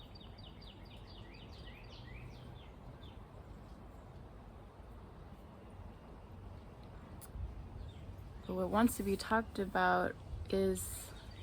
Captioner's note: birds chirping